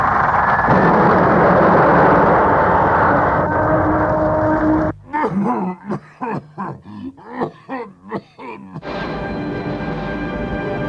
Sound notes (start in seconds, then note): 4.9 coughing